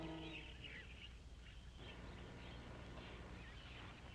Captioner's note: birds chirping